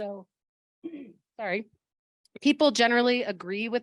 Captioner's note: clears throat